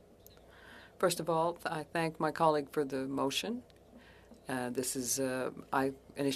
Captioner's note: speaking French